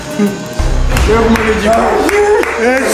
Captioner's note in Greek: πανηγυρισμοί